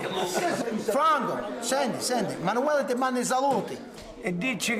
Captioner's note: speaking foreign language